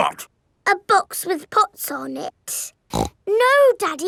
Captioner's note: snorts